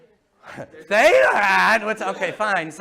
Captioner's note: mocking